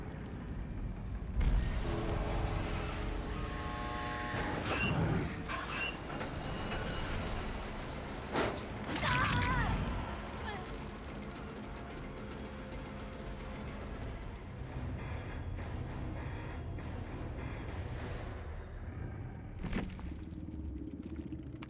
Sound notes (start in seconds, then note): 4.6 door creaking; 6.5 ominous music; 8.9 woman screaming; 11.2 ominous music; 15.8 ominous music